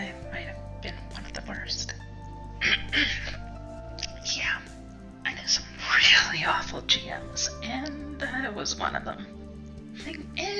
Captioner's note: cough